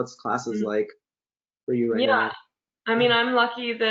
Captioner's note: laughs